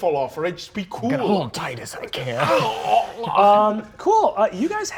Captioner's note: groans